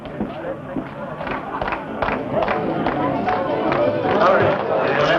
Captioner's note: clapping